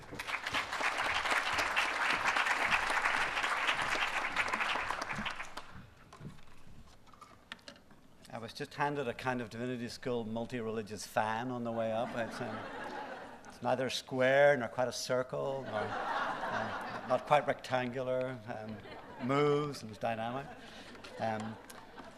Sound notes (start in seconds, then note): 0.0 applause; 12.0 laughter; 15.6 laughter